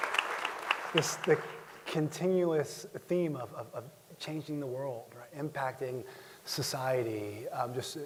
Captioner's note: applause